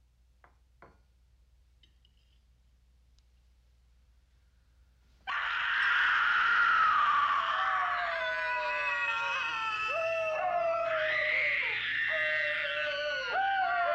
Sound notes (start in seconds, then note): 5.0 screaming; 10.1 howling